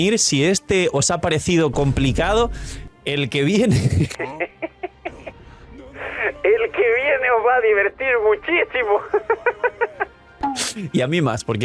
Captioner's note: laughs